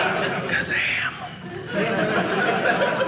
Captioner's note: audience laughing